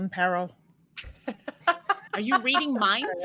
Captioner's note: laughs